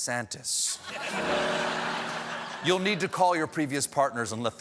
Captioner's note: laughter